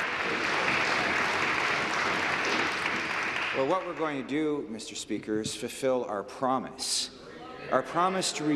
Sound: applause

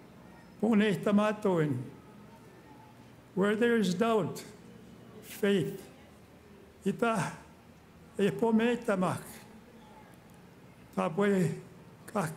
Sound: speaking Indigenous Language

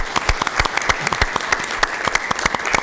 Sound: applause

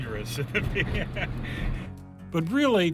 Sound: laughs

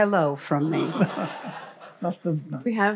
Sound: laughter

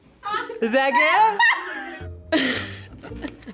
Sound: laughs

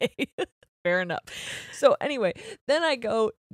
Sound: both laughing

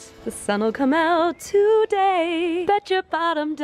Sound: in a sing-song voice

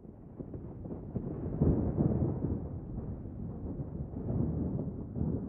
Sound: thunder rumbles

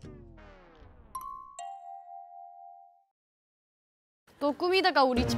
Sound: silence falls as they all concentrate

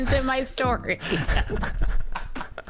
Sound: laughs

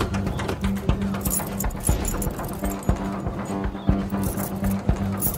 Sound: upbeat percussive music continues; keys jingling

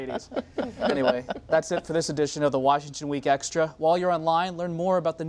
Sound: laughter

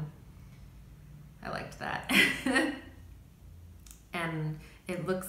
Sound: chuckles

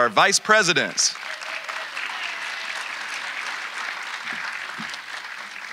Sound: audience applauding

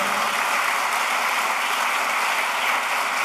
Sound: applause

